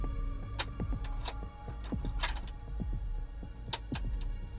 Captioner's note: gun clicks